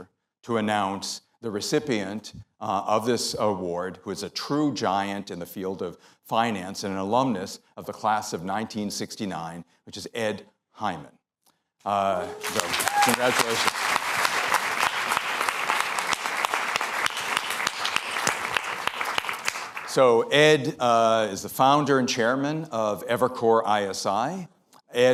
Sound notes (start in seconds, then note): 13.9 applause